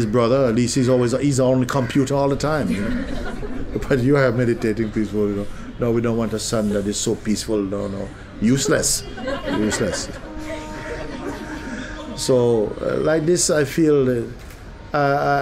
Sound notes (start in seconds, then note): 8.9 laughter